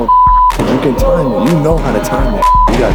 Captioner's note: beep; beep